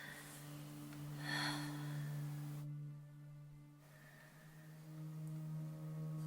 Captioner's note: Eileen breathes deeply; suspenseful music